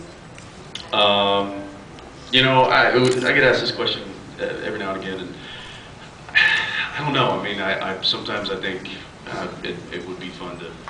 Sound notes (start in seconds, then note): 6.3 sighs